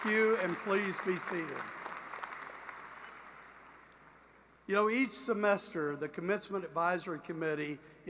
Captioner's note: applause